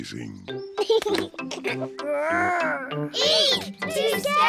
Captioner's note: giggles